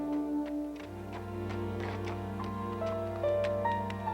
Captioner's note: horse hooves clomping